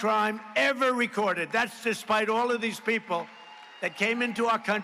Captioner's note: applause